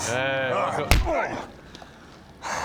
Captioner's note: whack!